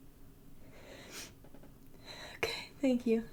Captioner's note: sniffling